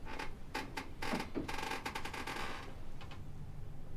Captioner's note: chair creaks